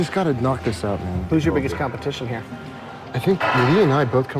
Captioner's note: none